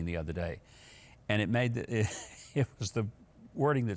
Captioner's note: laughs